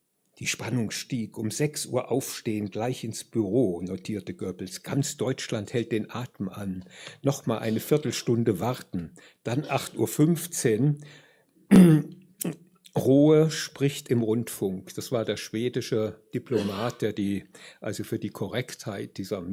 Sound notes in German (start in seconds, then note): 11.7 räuspern